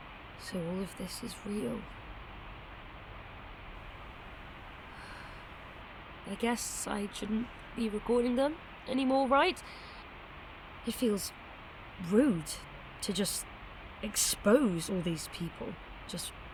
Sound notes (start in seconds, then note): 4.9 sighs